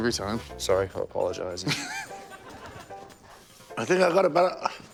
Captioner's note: laughs